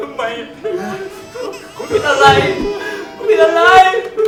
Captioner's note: crying